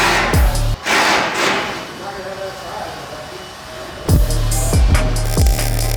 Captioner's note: drill blatting; suspenseful hip hop music